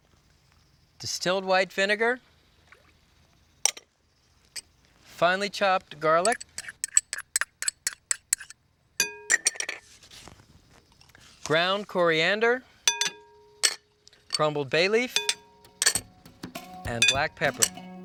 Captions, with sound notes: distilled white vinegar, finely chopped garlic, (glass clinking) ground coriander, (glass clinking) crumbled bay leaf, and black pepper.